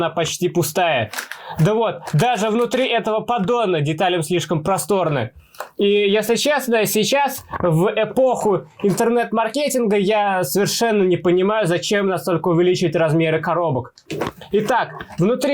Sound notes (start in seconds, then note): none